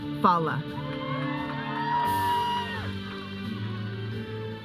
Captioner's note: audience cheering; processional music